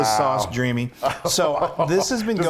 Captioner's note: laugh